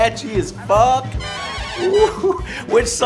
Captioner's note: brief 'woohoo' and dancing